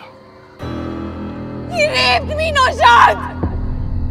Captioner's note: Screaming